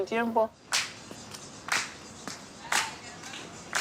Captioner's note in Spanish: Aplausos